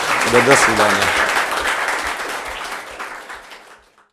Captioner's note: applause